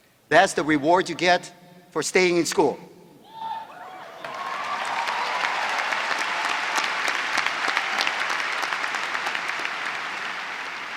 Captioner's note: applause